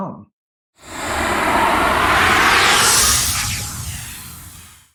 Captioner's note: air whooshing